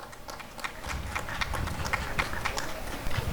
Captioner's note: applause and cheering